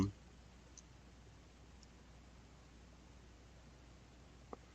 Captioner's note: mouse clicking